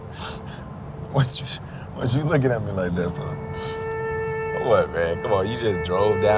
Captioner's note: laughs